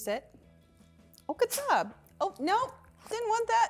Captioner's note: dog sneezes